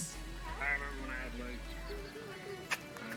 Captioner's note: laughter